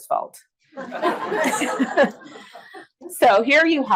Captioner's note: audience laughs